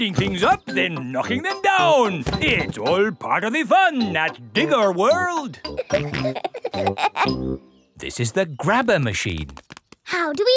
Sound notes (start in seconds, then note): 5.6 peppa and george laughing